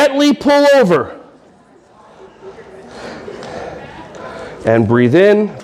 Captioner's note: audience breathing while stretching